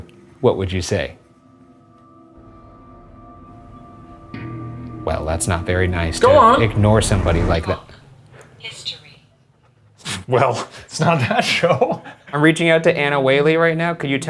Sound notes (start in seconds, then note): 2.3 slow foreboding music; 10.3 laughing